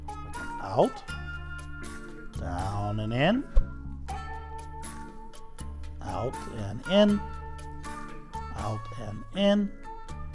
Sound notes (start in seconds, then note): none